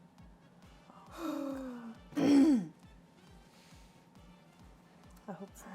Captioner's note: gasps; clears throat